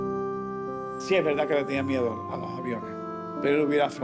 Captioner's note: speaking Spanish